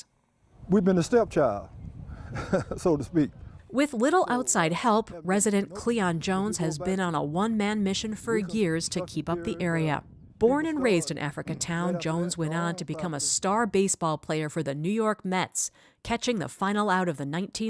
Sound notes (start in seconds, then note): 3.8 laughs